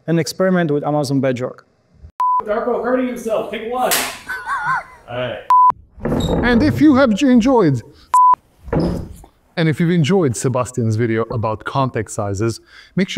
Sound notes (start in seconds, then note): 2.2 video beeps; 3.8 clapboard claps; 8.1 video beeps